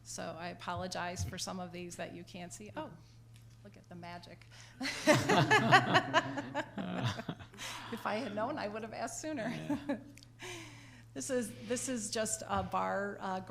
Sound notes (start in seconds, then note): 4.9 laughs